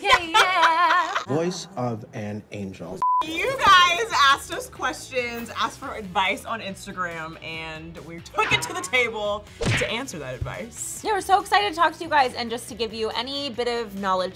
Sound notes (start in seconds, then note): 0.0 laughter; 3.0 beep